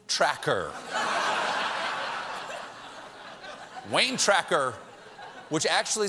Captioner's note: laughter